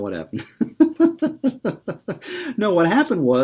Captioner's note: laughs